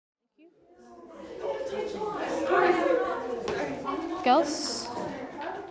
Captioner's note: students chattering